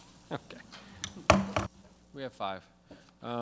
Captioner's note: gavel smacks